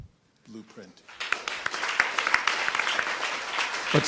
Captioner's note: applause